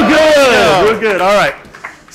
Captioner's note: applause